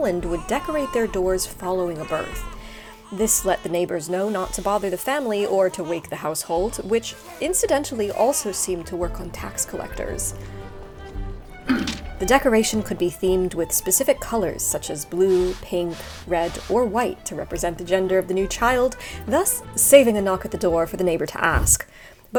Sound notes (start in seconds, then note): 2.6 baby crying; 11.3 tax collector grunts